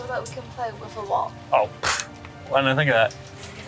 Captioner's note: chuckles